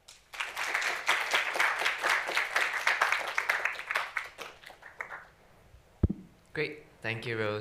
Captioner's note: applause